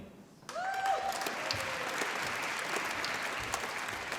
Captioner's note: applause